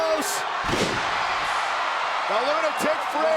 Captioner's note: crowd cheers